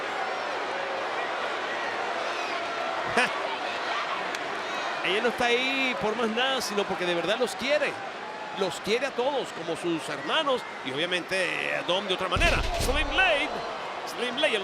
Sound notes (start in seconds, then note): 2.1 laugh; 2.2 applause